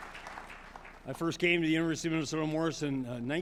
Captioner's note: applause